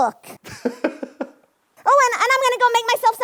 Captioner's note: laughing